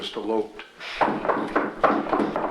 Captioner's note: door knocking